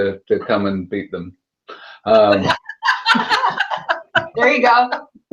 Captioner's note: laughter